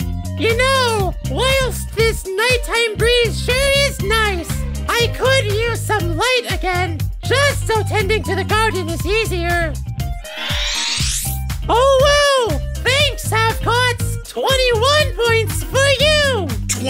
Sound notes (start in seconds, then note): 10.2 shimmering sound